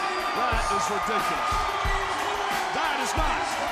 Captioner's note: crowd cheering